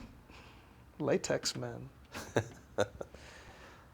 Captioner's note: laughter